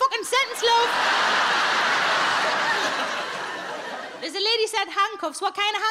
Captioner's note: audience laughing